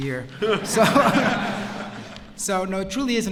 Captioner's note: laughter